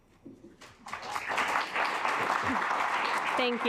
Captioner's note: assembly clapping